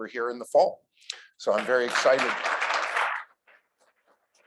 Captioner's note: applause